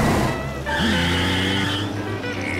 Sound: screeching

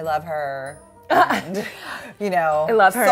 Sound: laughs

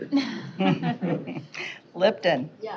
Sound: chuckling

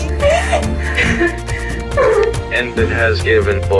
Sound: gasping; electronic Voice

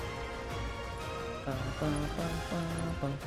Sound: humming

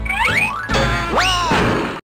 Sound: screams

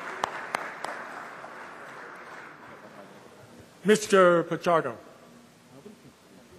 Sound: applause

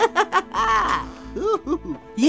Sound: laughing

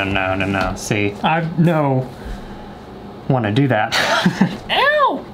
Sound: laughs

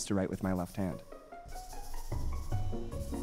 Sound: pen scratching

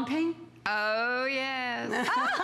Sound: laughter

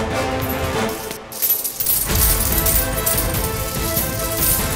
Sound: coins clinking

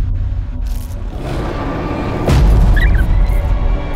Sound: suspenseful music; dinosaur roars; small dinosaurs chirp

